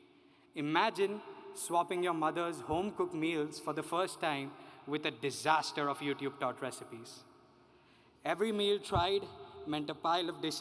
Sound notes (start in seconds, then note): none